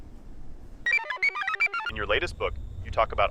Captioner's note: computer chirps